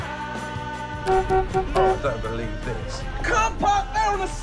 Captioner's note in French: klaxonner